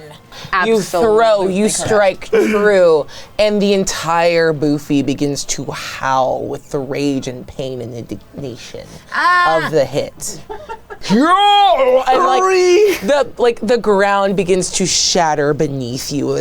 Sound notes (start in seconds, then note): 10.3 people laughing; 11.4 in deep voice